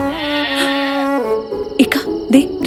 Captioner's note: gasping